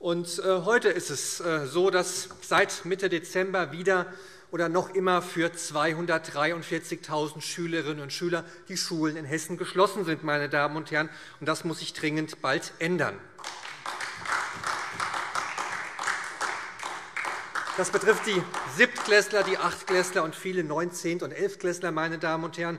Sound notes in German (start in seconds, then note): 13.3 Beifall SPD